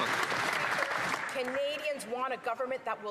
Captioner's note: some Applause